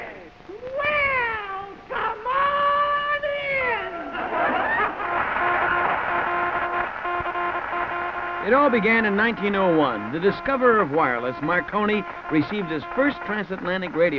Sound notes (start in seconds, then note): 4.1 laughter; 7.0 morse code beeps